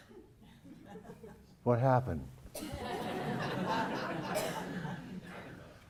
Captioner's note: laugh